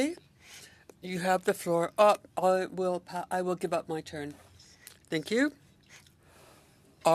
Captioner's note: speaking French